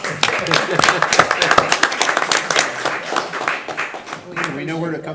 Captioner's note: audience applauds